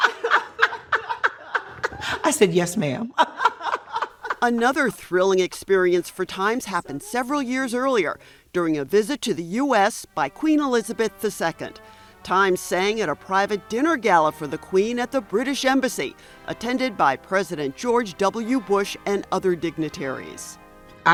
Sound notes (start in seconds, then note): 0.0 laugh; 3.7 laughs